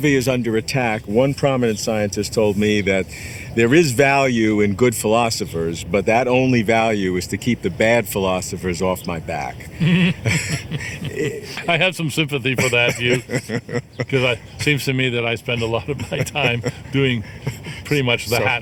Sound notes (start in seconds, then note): 10.0 laughs